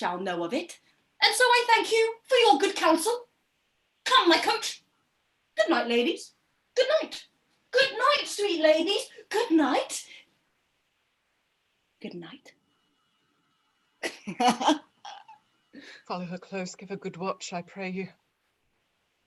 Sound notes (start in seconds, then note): 14.0 laughs